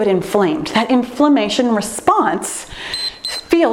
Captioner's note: timer beeps